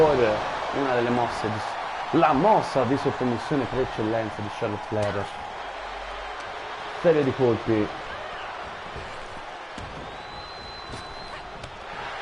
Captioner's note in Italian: Applauso